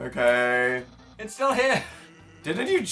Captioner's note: laughing